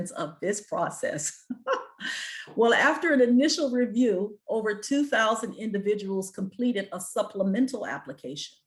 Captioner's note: chuckles